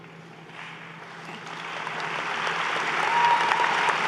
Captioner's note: applause